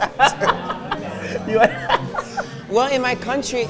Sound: laughs

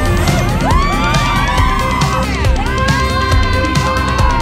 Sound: screams; cheering

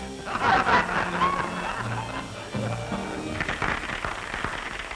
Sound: laughter; applause

